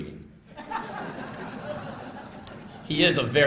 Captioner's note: laughter